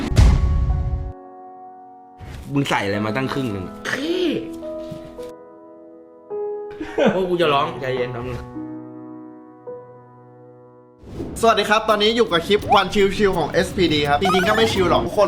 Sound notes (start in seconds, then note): 4.9 heart-touching music playing; 7.0 chuckles